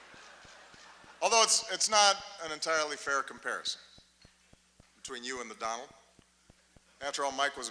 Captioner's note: laughter